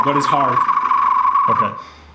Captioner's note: whistles